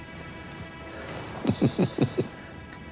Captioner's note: chuckling